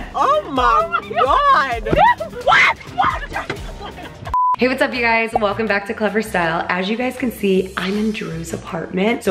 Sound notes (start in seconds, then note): 0.2 screams